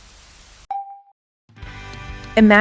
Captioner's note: static